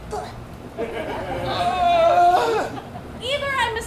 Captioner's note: fairy grunts; audience laughs; Puck groans